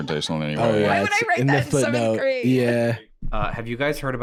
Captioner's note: laughing